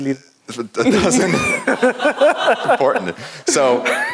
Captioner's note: laugh